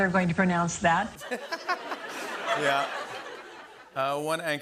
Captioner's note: laughter